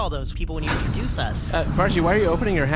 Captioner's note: hatch-opening noise